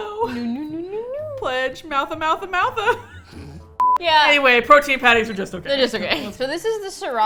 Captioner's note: laughs